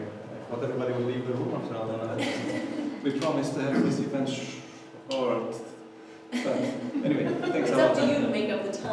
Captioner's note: audience laughter